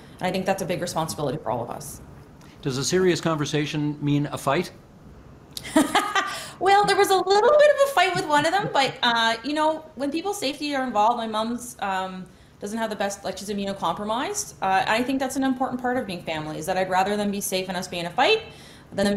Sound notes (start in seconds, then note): 9.2 laughing